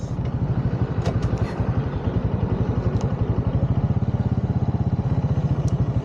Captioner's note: engine starting